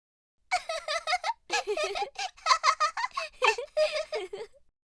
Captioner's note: children's laughter